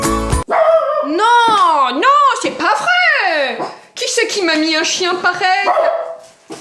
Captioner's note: dog bark